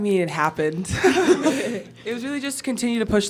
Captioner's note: laughs